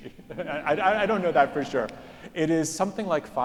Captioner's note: laughs